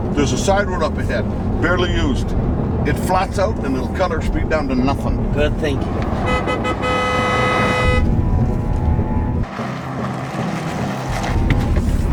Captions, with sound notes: There's a side road up ahead. Barely used. It flats out and it'll cut our speed down to nothing. - Good thinking. [truck horn honks] [suspenseful music]